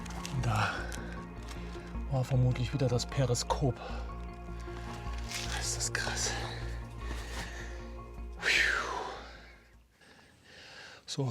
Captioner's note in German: seufzt